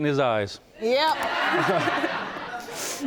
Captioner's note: laughing